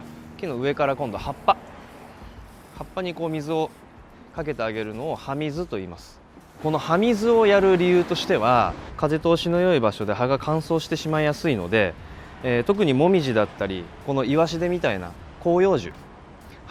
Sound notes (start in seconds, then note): 6.4 watering/Spraying leaves